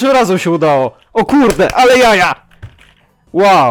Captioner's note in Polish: odgłos mojego klaskania